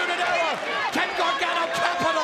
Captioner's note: crowd chatter